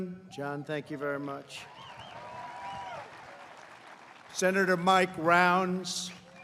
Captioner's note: applause